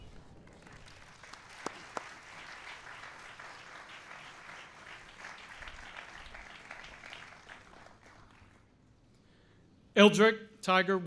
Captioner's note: applause